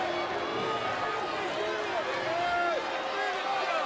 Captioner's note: audience jeers